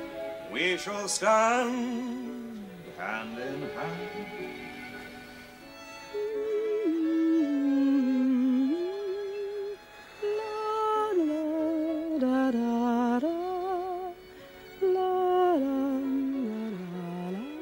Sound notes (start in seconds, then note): 6.2 Amanda hums